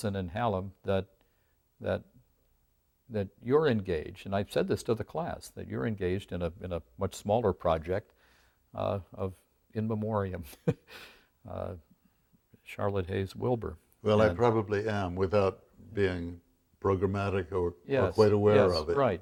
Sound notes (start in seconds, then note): 10.7 laughs